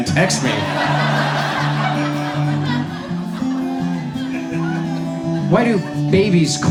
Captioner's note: audience laughs